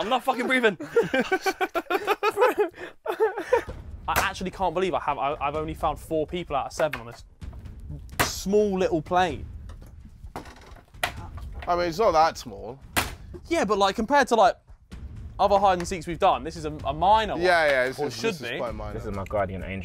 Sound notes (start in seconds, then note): 2.5 three of them laughing together